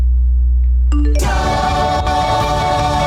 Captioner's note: dramatic music; phone dings